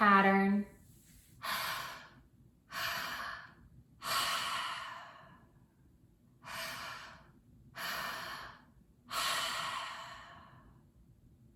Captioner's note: breathing